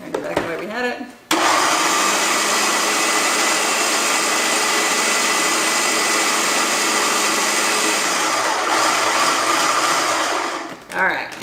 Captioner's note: loud food processor noise